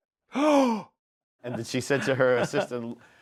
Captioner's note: gasps